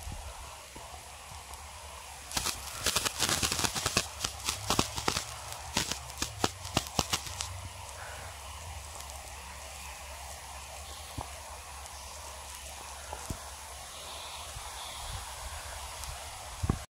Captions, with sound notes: Whoosh (Aggressive crackling) Whoosh Whoosh (Breathing) Whoosh Whoosh